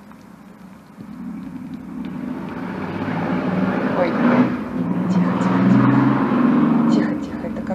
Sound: the sound of a passing car

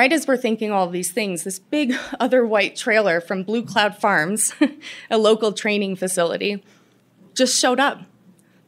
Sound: laughter

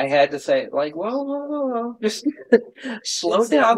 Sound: laughter

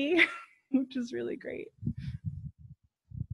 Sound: chuckles

